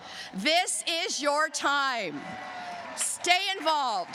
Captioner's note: cheers and applause